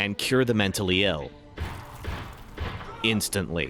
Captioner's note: gunshots